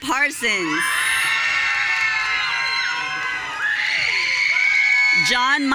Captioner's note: audience cheering